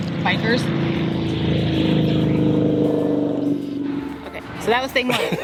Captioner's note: motorcycles rev